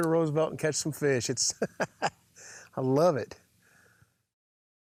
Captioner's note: laughs